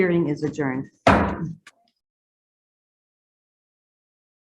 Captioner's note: gavel bangs